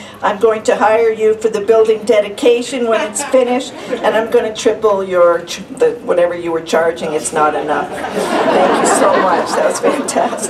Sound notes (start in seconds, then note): 7.9 laughter